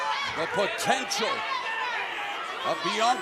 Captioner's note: crowd chatter